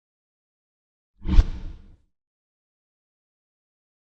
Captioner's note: logo whooshing